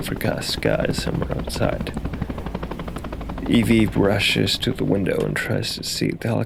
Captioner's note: helicopter sound